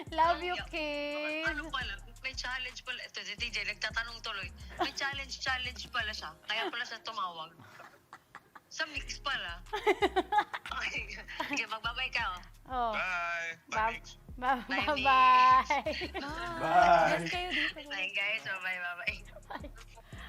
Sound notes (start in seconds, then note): 7.6 chuckles; 9.8 laughs; 15.5 chuckles